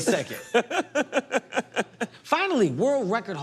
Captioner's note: laughs